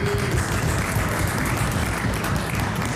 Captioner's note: applause